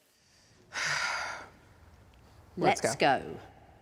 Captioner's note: exhales